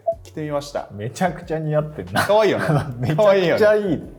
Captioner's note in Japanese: 笑い